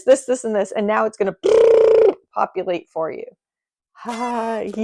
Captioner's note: blows raspberry